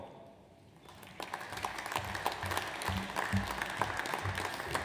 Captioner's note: audience applauds